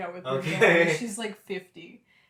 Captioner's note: laughter